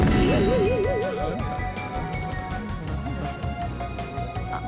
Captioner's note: groans of pain